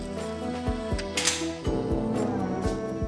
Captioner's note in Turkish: Kapı açıldı